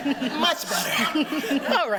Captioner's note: chuckling